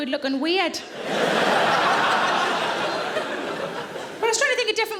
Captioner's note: audience laughing